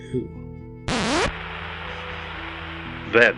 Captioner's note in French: Le disque gratte et crépite